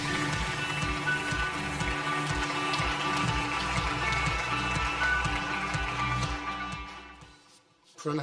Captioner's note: audience applause; upbeat music